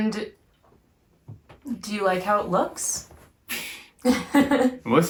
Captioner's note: laughs